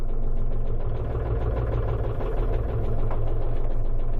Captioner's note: engine whirs